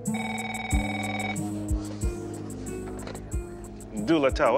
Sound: telephone ringing

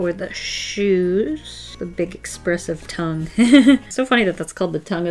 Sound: laughs

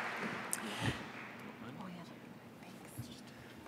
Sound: applause

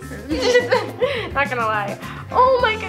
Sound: both laugh

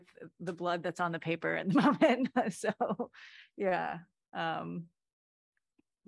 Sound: laughter

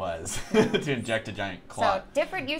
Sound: laughs

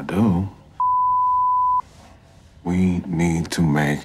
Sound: beep

